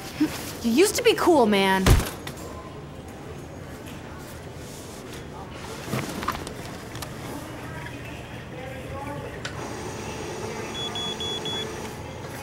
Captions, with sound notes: You used to be cool, man. [body bag thuds] [beeping]